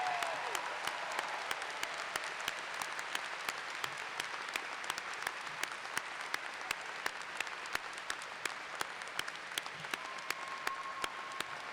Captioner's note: applause